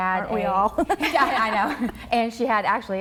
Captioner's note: laughing